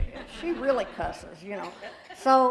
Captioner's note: laughter